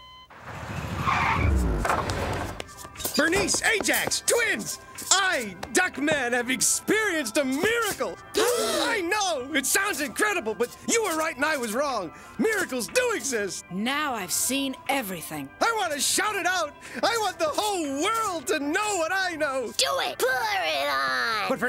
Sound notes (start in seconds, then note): 0.3 tires screeching; 8.4 all gasp